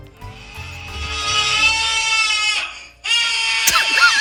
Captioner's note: recorded screaming